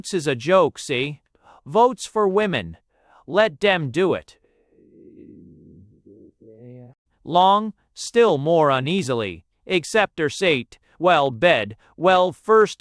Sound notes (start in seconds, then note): 1.9 _Angrily. _